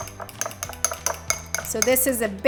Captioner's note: glass clinking